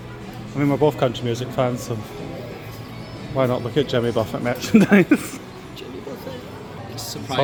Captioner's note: laughs